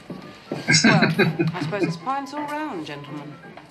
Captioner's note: chuckling